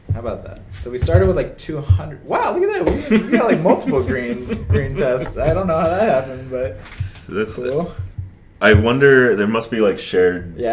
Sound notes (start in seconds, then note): 2.9 laughs